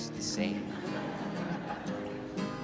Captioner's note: crowd laughing